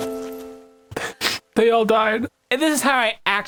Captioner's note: sniff